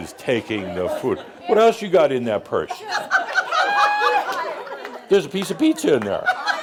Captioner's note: more laughter